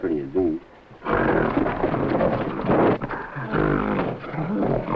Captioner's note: gorilla grunting